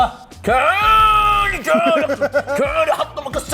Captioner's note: groans